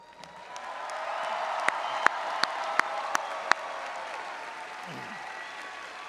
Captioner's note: audience applauding and cheering